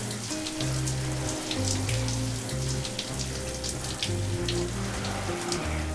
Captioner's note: water splashing continues